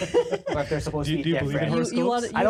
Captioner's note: laughing